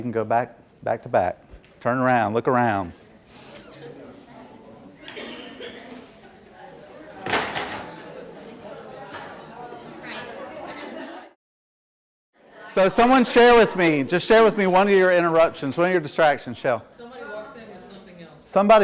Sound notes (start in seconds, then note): 3.2 audience chatters